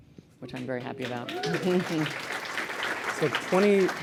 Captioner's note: applause